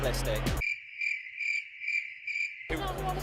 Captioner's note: cricket noises